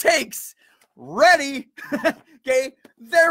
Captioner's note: laughs